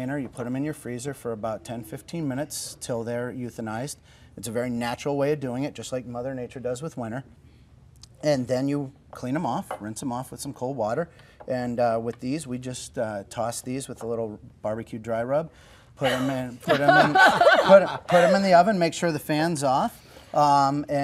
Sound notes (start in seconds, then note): 16.6 laughing